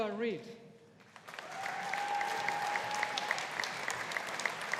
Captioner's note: audience applauding